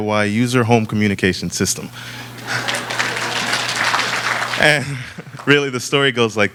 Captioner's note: laughter and applause